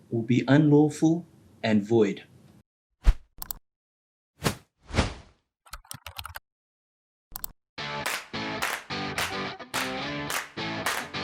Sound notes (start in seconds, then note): 3.4 mouse clicks; 7.9 bright music